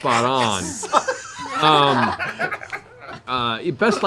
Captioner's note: laughter